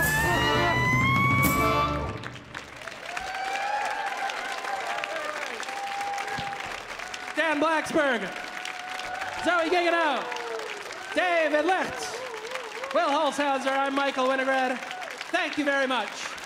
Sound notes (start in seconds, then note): 2.4 audience applauding; 2.4 audience cheering